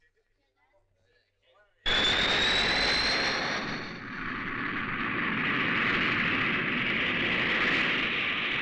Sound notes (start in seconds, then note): 1.9 airplanes Sound